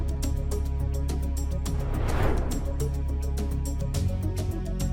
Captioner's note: air swooshing; tense music continues